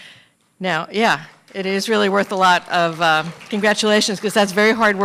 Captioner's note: applause